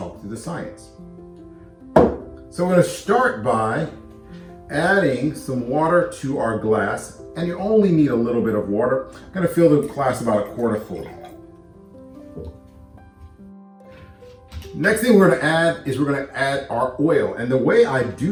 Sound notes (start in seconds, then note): 9.2 pouring water into a glass